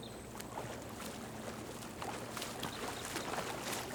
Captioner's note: water sloshing